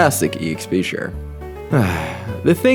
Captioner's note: sigh